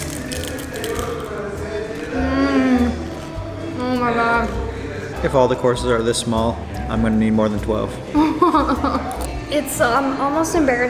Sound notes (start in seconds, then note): 8.1 laughs